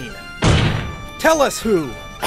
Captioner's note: slam